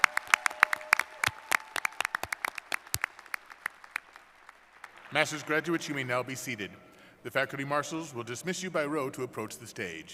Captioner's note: cheers and applause